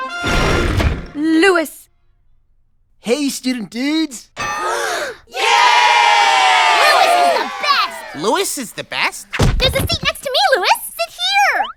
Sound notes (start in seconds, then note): 4.4 cheering; 4.4 gasps